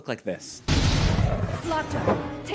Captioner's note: boom as a high-quality CGI dog materializes